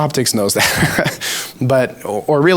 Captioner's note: laughs